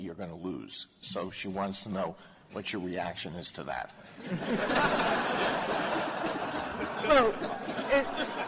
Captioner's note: laughter